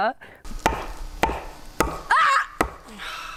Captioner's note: log hammers; screams